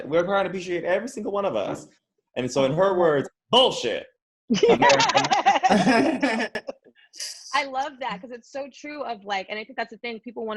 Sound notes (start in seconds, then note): 4.5 all laughing